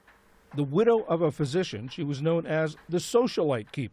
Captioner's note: voice-over